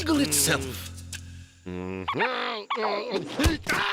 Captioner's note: grunting